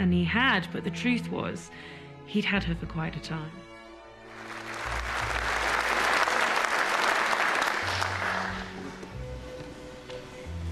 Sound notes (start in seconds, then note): 4.3 applause